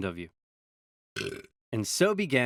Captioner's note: burps